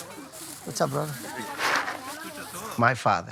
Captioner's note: beans rattling